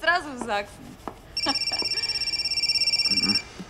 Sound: phone ringing

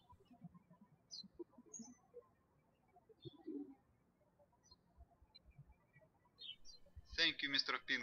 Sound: birds chirping

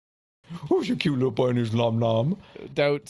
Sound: in a baby voice

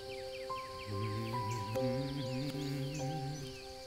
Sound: humming

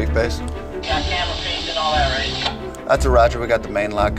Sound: garbled radio transmission

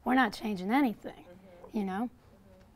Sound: voiceover

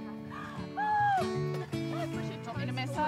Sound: gasps painfully

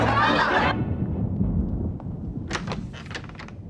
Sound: thunder rumbling

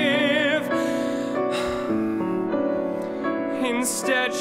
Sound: exhaling

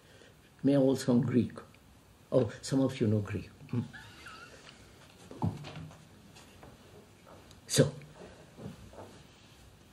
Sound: laughs

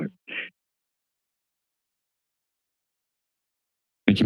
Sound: silence

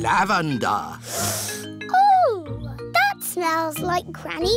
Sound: sniffs

